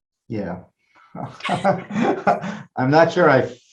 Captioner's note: all laughing